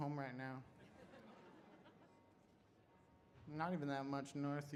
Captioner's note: audience laughs